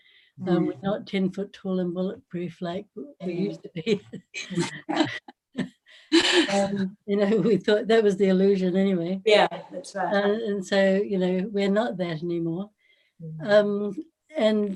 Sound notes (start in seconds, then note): 3.8 Gelach